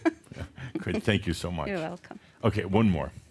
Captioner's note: she chuckles